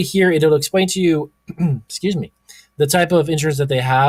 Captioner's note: clears throat